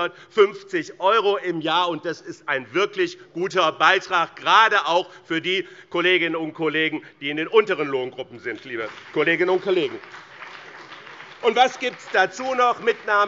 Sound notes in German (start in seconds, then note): 8.5 Beifall BÜNDNIS 90/DIE GRÜNEN und vereinzelt CDU